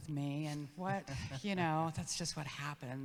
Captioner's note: interviewer laughs